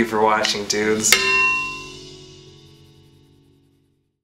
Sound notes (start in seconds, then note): 1.1 clank